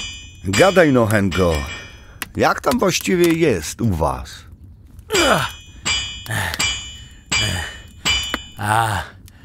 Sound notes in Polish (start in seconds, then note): 5.1 dźwięk kucia stali